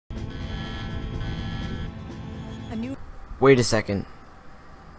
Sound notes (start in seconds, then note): 0.1 alarms blare